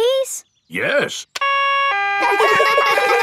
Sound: siren stops; siren wailing; kids laugh

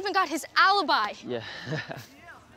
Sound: laughs

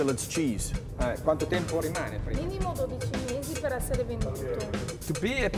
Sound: speaking Italian

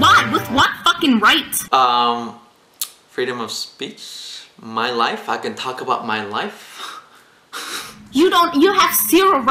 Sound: laughs

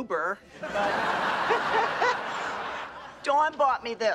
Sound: laughs

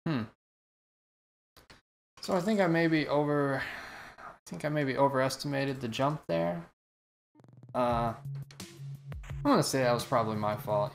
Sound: sighs

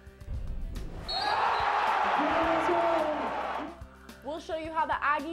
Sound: crowd cheers

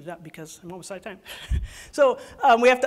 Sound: laughs

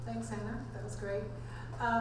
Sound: voiceover

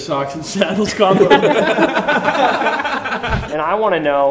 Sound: laughter

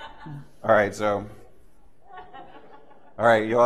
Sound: laughter

